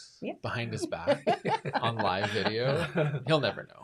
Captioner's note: laughs